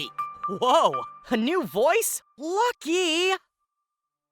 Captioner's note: in their new voice